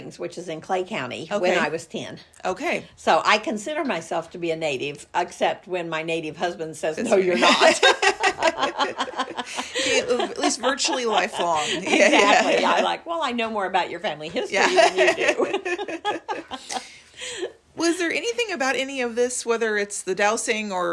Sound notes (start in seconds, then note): 7.1 laugh; 14.4 laughing